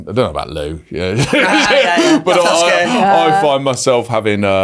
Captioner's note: hosts laugh